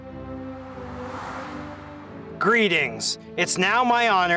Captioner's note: air whooshes